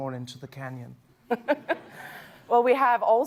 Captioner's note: laughter